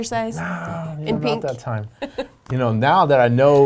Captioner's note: laughing